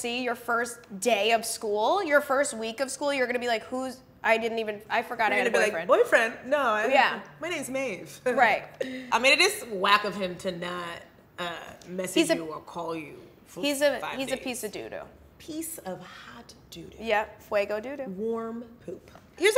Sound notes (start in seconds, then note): none